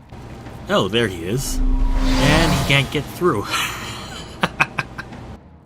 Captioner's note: laughter